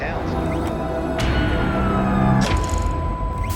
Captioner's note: siren wails